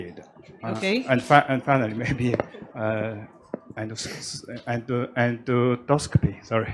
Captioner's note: laughs